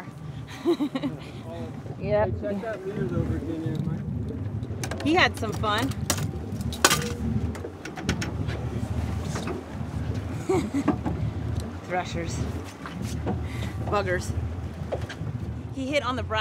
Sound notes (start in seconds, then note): 0.5 chuckling; 7.0 clanking; 10.3 chuckling